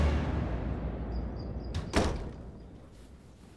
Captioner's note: the door closing sound